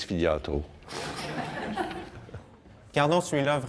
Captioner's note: laughs